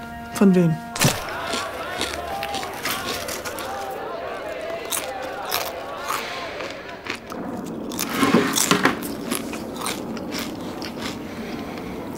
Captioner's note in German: lautes Knuspern